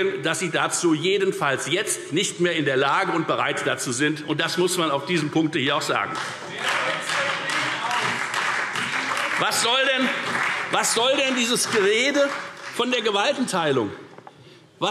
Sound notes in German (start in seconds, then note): 6.0 Beifall Freie Demokraten, CDU und BÜNDNIS 90/DIE GRÜNEN